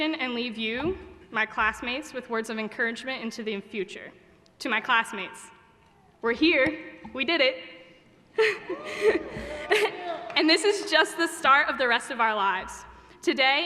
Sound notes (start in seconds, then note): 8.4 laughs